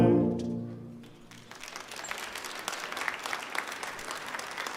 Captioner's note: audience clapping